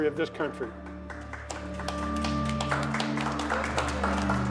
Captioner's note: group applauds